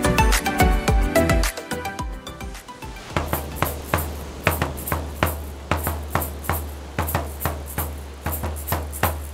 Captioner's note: upbeat percussive music; waves crashing